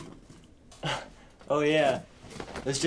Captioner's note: chuckles